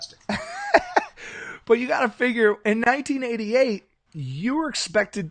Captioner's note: laughs